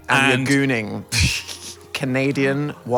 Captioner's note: Phil laughs